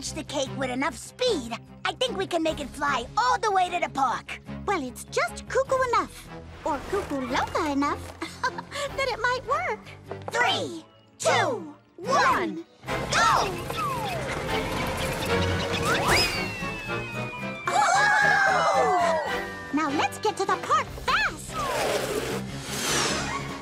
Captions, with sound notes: So if we launch the cake with enough speed, I think we can make it fly all the way to the park. Well, it's just cuckoo enough, or Cuckoo Loca enough... ( giggles ) that it might work. Three, two, one. Go! ( exclaiming ) Now let's get to the park fast.